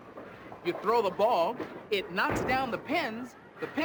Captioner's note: none